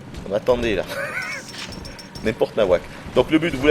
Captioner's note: giggles